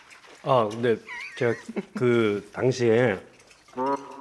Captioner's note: holding back laughter